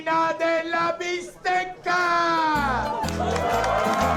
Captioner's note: crowd cheers